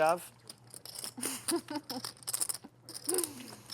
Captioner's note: laughs